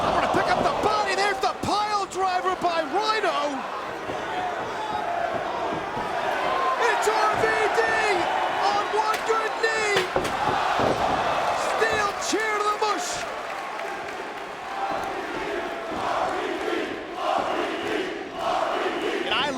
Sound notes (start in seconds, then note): 6.5 spectators cheering; 10.3 spectators exclaiming; 13.7 spectators cheering and applauding; 14.9 spectators chanting "RVD!"